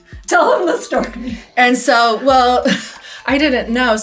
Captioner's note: laughs